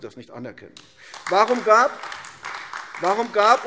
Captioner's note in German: Beifall AfD